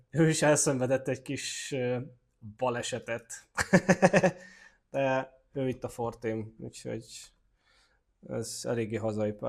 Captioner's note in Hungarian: nevetés